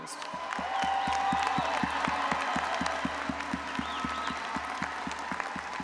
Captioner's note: audience applauding and cheering